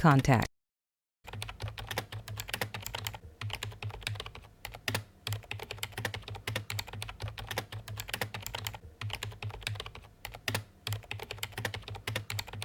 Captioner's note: typing